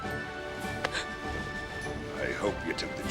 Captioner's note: Coral gasping